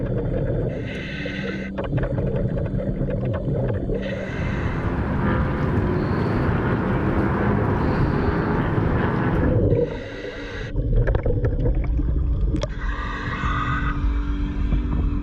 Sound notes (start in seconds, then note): 4.0 traffic droning; 10.1 gentle music continues; 10.1 mouthpiece hissing